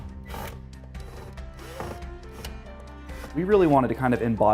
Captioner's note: drill